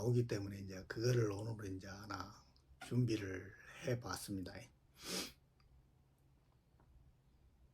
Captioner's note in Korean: 콧방귀